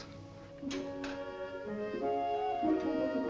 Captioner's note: gate opens